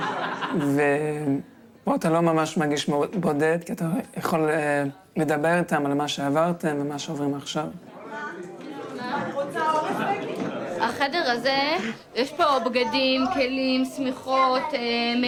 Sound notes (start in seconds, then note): 8.7 people chattering in foreign language; 10.9 speaking in foreign language